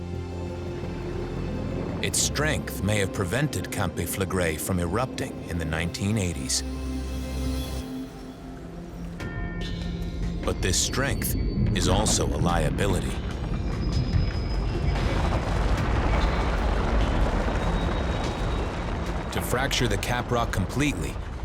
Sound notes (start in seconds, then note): 14.2 rumbling, rock crumbling